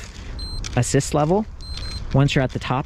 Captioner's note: bike beeps